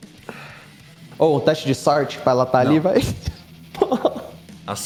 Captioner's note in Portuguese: risos